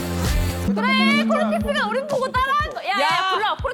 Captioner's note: confused sound effect